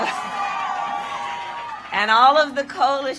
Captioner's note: applause